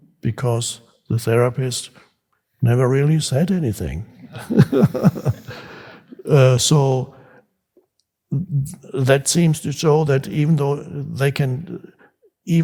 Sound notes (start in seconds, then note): 4.2 Eckhart laughs; 4.3 audience laughs